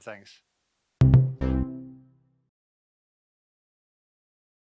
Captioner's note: cheerful tone